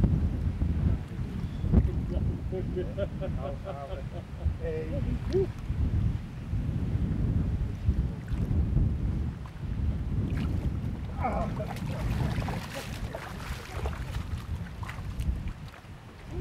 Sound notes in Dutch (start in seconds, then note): 4.0 Ze lachen